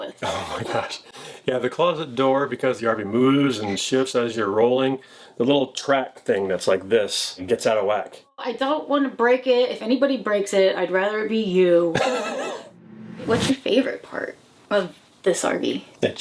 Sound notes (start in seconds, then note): 11.9 laughing; 12.2 logo whooshing